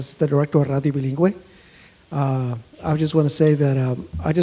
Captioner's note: speaks foreign language